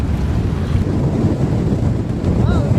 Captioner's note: strong wind